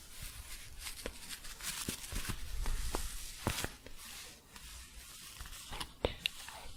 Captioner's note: scratchy shuffling